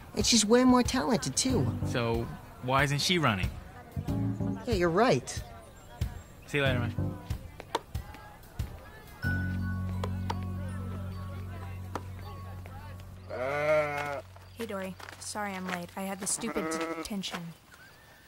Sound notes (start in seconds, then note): 9.8 tense music; 13.2 calf moos